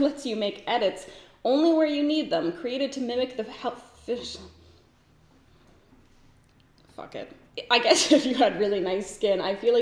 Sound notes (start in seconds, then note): 4.4 stumbles over words